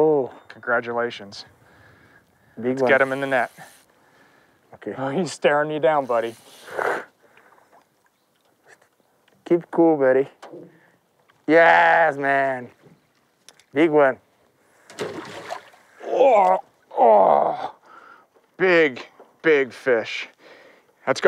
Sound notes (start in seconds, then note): 3.8 voiceover